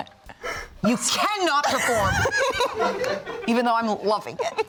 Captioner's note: laughs